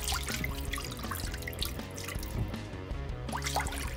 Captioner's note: liquid pouring